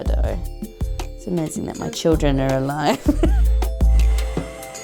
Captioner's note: laughter; upbeat music